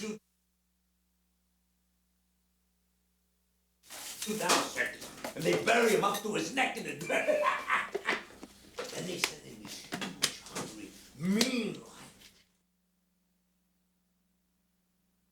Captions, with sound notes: (silence) ...and they bury him up to his neck in it. (laughing) Then they send in this huge, hungry, mean |ion-- (silence)